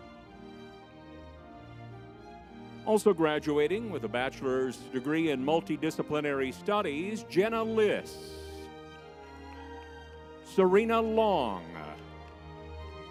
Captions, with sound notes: Also graduating with a Bachelor's Degree in Multidisciplinary Studies, Jenna Lis. (crowd cheers) (lively music) Serena Long, Kendra Lyons.